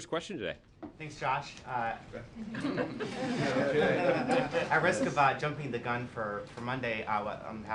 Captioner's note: laughter